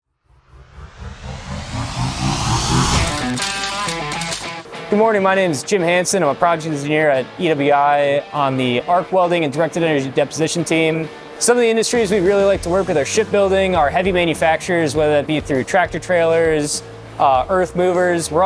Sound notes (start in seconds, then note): 0.2 rising electronic tones; 2.8 upbeat rock music